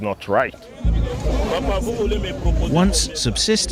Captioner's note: non-english speech